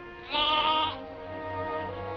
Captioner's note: bleating